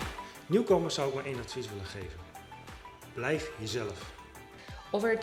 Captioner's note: speaking foreign language